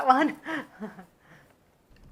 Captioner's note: laughs